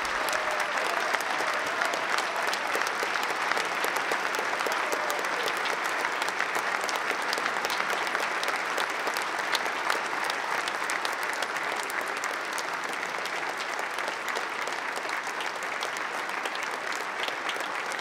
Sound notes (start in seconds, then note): 0.5 applause